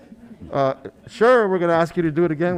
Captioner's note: softly laughing